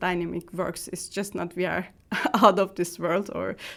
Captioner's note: chuckles